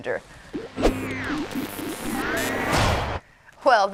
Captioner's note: electronic noises